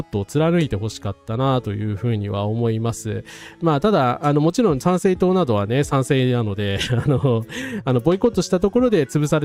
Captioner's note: laughs